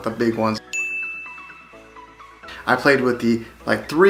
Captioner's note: bell pinging